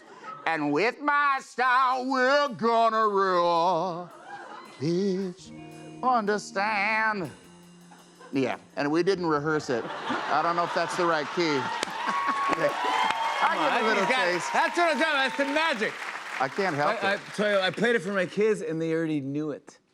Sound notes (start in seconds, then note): 11.7 cheers and applause